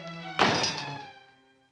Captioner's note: door slams